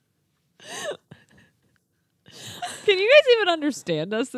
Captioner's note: gasping